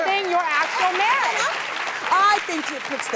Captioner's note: audience clapping